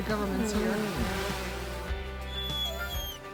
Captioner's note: drone buzzing